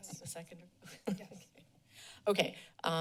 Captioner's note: laughter